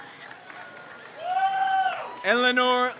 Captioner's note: crowd cheers